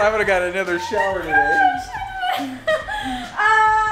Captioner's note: laughs